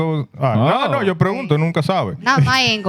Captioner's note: speaking Foreign Language